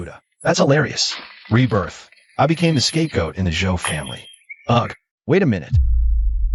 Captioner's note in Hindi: हिस्स